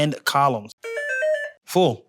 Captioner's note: buzzer